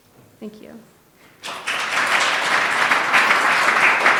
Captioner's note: applause